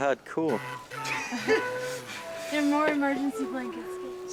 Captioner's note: laughs